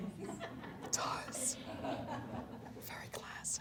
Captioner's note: laughter